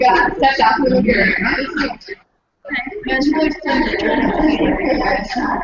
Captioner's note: varied conversations among audience